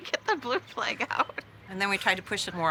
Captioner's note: laughs